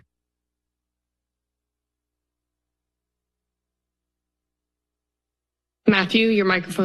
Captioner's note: silence